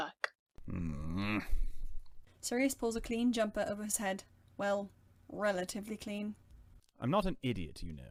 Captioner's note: Sirius grumbles